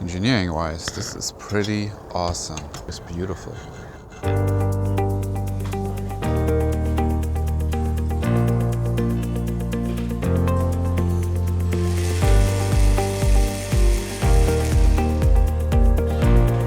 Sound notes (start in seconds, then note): 4.1 upbeat music; 12.5 machine whirring